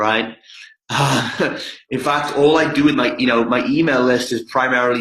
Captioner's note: laughs